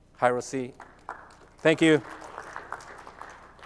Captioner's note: applause